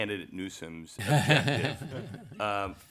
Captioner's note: laughter